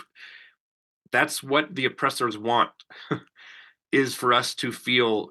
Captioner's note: chuckles